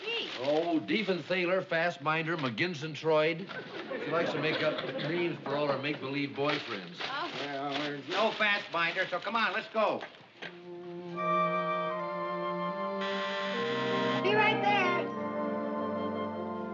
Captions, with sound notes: Oh, Diefenphaler, Fasbinder, McGinzentroid. She likes to make up names for all her make-believe boyfriends. Well, there's no Fasbinder, so come on, let's go. ( DOOR BUZZER ) Be right there.